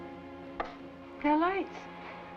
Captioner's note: ominous music; rhythmic thumping